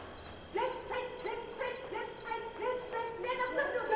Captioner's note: woman shouting orders